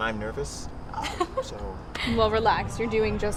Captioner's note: laughs